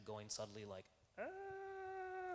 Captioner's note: imitates light scream